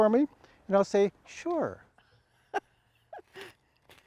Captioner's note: laughs